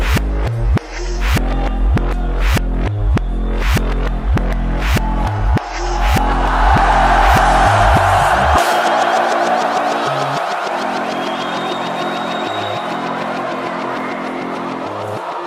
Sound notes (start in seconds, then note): 1.3 upbeat music continues; 6.9 crowd roars; 6.9 upbeat music continues